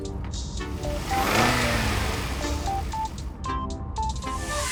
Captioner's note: car accelerates